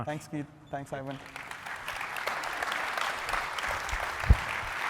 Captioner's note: applause